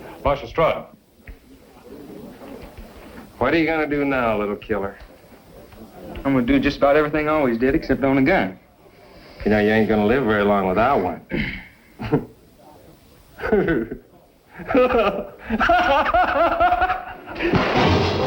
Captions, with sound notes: Marshal Stroud. -What are you going to do now, little killer? -I'm going to do just about everything I always did, except own a gun. -You know, you ain't going to live very long without one. [GIGGLING] [GUFFAWING]